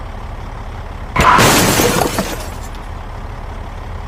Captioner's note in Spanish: Sonido de choque :0